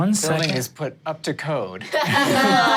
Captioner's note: dice rolling; everyone laughs